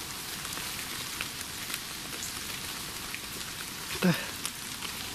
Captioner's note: rain pattering